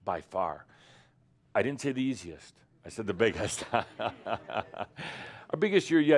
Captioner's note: Adamus chuckles